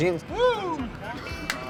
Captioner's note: soft guitar music; yelling